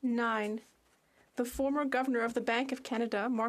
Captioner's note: speaking French